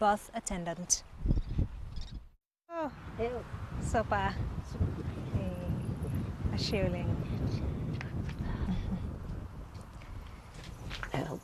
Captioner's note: speaking Swahili